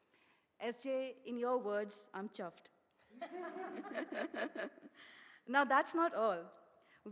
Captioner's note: laughter